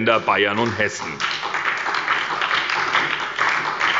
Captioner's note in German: Beifall bei der SPD